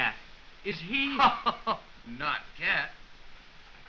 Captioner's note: laughs